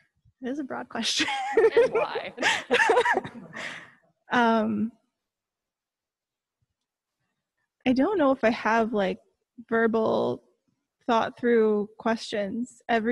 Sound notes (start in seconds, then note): 3.2 laughs